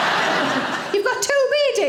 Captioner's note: audience laughing